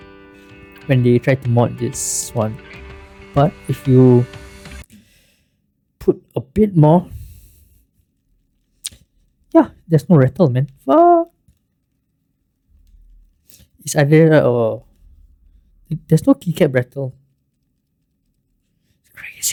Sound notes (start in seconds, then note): 11.7 sound of silence